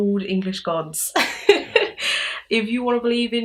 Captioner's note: laughs